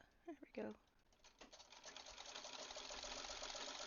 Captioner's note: clacking